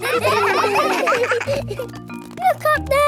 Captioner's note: children laughing